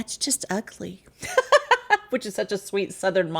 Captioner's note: laughs